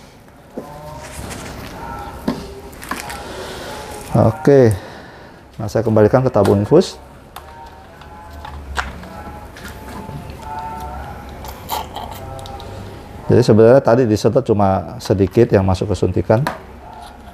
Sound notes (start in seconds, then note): 0.1 tissues noise; 3.8 damper noise; 7.6 opening infused tube noise